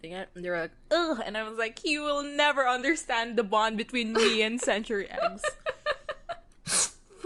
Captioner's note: laughing